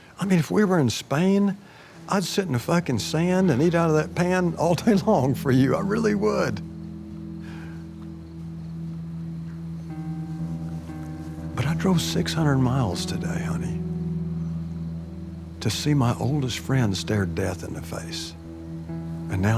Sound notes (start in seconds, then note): 2.2 somber music; 4.6 laughs